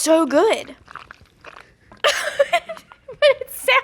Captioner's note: pasta squishes; laughs